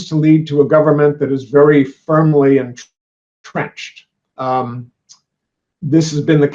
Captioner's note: chattering voice